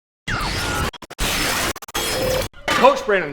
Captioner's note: static sounds playing